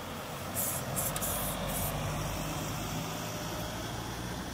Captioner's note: spraying noises, rushing traffic